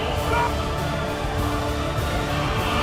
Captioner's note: yelling and screaming